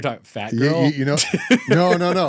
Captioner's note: laughing